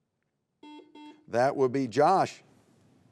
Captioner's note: buzzer beeps